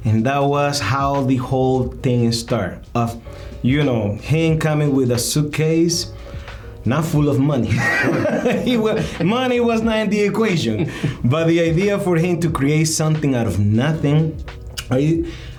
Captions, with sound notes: And that was how the whole thing start of, you know, him coming with a suitcase, not full of money. (both laughing) Money was not in the equation, but the idea for him to create something out of nothing.